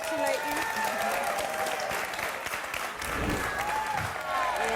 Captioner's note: audience applauding